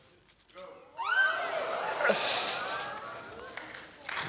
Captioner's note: gasping